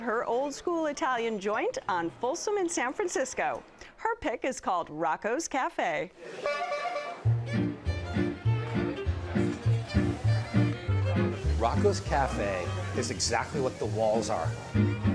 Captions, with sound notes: her old school Italian joint on Folsom in San Francisco. Her pick is called Rocco's Cafe. (horn honks) (peppy music) - Rocco's cafe is exactly what the walls are.